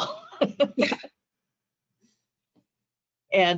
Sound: laughing

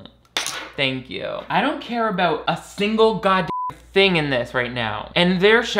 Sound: beep

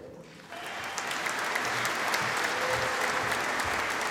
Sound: audience applauding

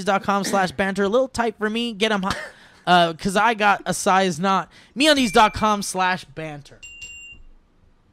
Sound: ding ding; ding

